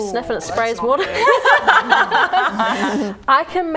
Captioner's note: laughing